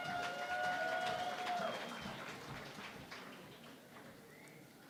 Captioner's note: cheering and Applause